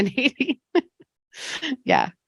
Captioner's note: laughs